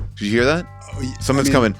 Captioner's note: bell ringing; walls banging